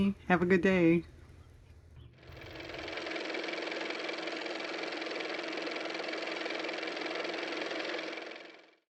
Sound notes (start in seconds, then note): 6.8 car motor